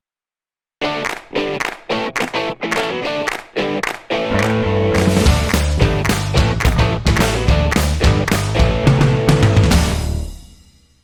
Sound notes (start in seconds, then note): 0.9 claps